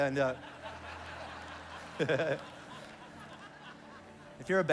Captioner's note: congregation laughs